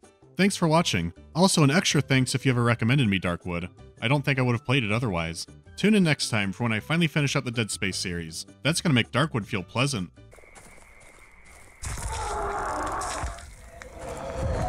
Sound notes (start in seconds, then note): 11.9 monstrous screech